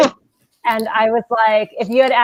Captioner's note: laughing